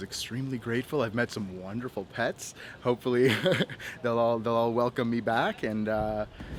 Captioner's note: laughter